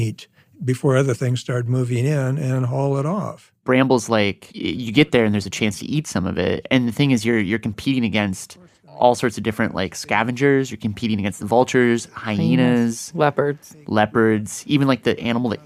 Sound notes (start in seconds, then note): none